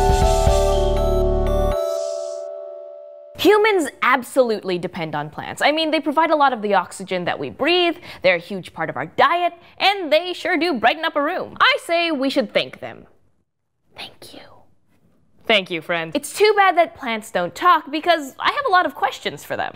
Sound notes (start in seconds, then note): 13.6 whispers